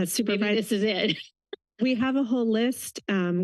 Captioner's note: laughter